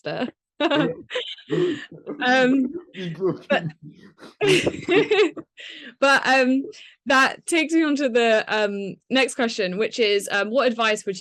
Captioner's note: laughing